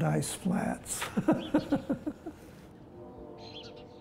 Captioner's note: laughs